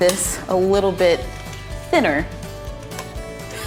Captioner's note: laughs